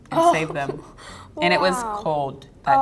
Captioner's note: laughs